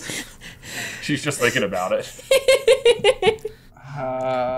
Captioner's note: laughing